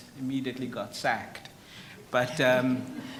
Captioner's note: audience laughs